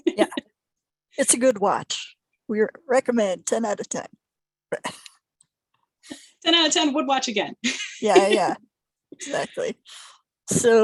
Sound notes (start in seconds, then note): 0.0 laughter; 4.8 chuckling; 7.8 chuckling